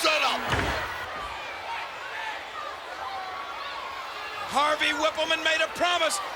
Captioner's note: applause